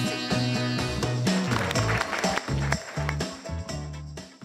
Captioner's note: applause